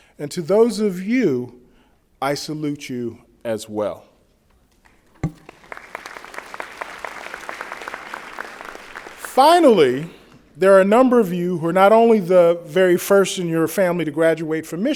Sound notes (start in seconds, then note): 5.2 applause